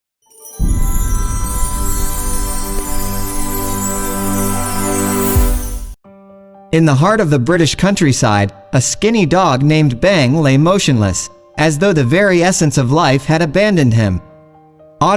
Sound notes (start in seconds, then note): 8.9 Bang